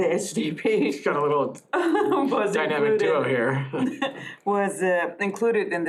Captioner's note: laughter